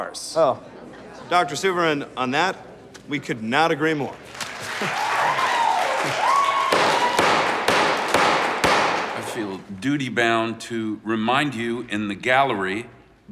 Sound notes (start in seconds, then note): 4.3 cheers and applause; 7.1 gavel banging